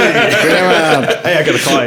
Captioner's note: laughing